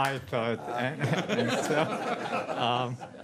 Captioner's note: laughter